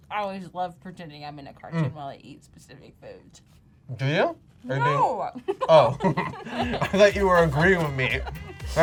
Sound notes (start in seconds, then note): 5.6 laughs